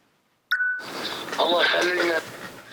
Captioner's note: man, in Arab